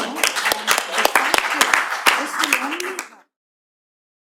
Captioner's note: applause